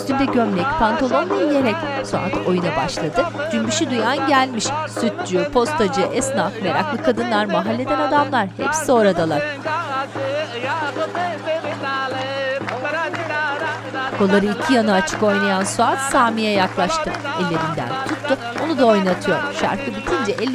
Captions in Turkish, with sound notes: Kaşarcı Taci geldi kapınıza. Kars'ımızın kazı, yağı, peyniri, balı. Kars'ımızın kazı, yağı, peyniri, balı. (Mırıldanma sesi) (Alkış sesleri)